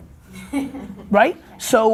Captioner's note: laughing